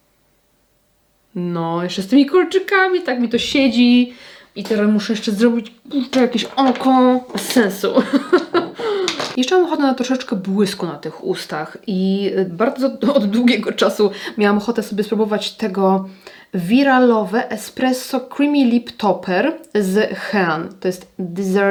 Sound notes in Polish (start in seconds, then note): 7.9 śmiech